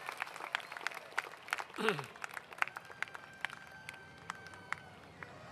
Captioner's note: cheers